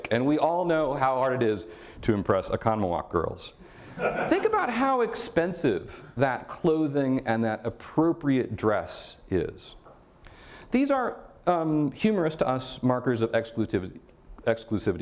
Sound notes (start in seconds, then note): 3.9 audience laughter